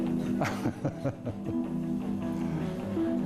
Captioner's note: laughs